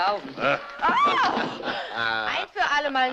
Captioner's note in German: lacht leise; schreit